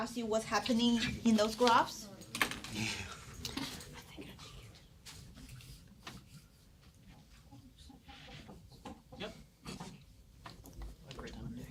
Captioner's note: students murmur